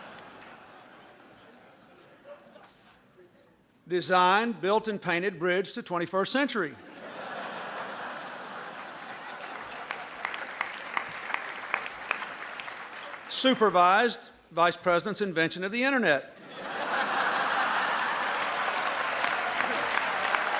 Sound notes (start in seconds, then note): 0.1 laughter; 8.5 applause; 9.6 laughter; 17.6 applause